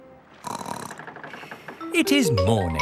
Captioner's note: snorts